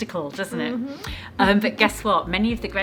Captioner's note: giggling